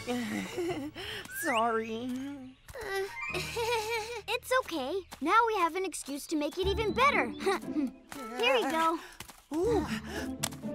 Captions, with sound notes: [chuckles nervously] Sorry. [chuckles nervously] It's okay. Now we have an excuse to make it even better. Here you go. Ooh!